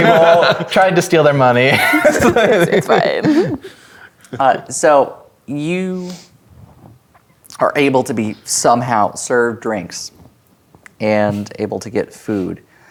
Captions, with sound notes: - Exploded a table. Tried to steal their money. - It's-- it's fine. (players laughing) - Uh... so, you are able to be, somehow, served drinks and able to get food.